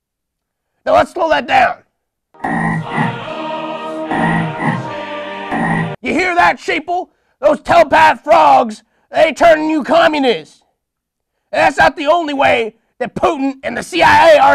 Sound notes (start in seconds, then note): 2.4 same frog ribbit plays but this time with faded music in it